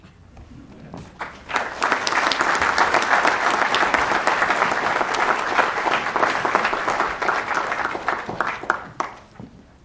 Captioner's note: applause